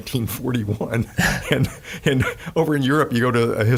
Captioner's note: laughing